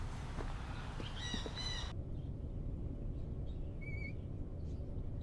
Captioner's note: chirping birds